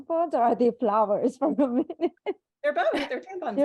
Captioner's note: laughs